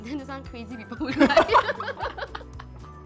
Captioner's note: intense giggles